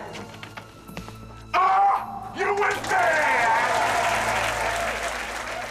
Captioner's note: applause and cheers